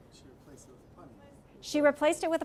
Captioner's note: speaking from off mic